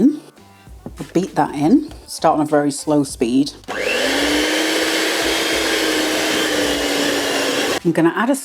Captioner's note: cake mixer whirring